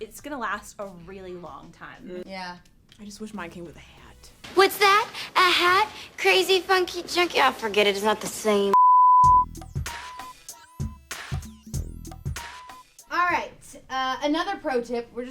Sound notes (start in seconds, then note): 8.7 beep; 9.3 R&B music